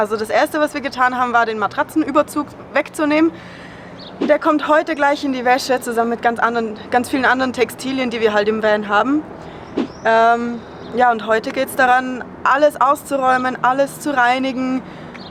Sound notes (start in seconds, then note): none